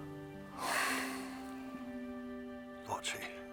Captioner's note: sighs deeply